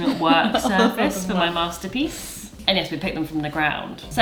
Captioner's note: speaks faintly